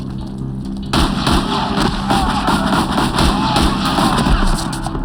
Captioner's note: shouting, yelling